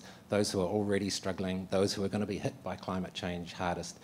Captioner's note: none